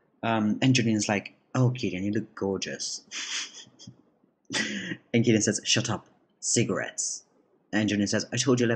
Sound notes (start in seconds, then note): 4.5 giggles